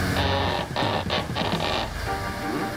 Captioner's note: rope creaking